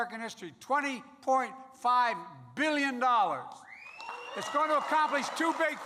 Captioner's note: applause